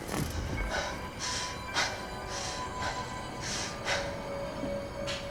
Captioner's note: panting